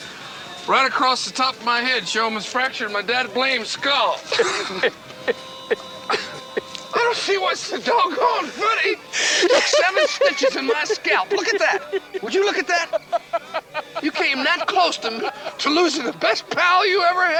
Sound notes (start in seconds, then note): 4.2 both laughing; 12.7 Joe laughing